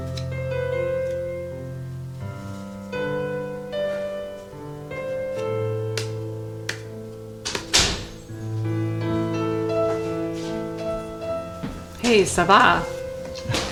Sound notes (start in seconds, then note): 6.1 object tapping; 7.3 door closing